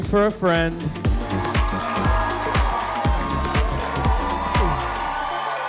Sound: audience cheering

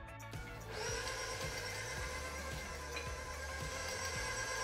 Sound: mixer whirring

